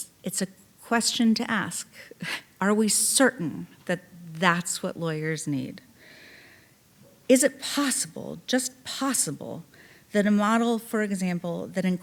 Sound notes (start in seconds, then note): none